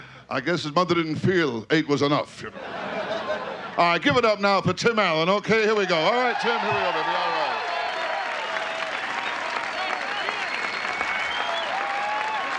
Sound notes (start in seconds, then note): 2.5 audience laughing; 7.7 audience clapping and cheering